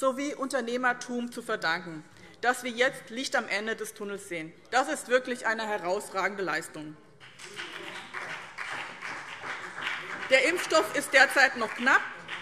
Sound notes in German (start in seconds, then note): 7.2 Beifall BÜNDNIS 90/DIE GRÜNEN und CDU